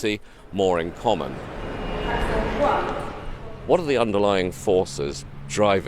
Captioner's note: traffic whooshing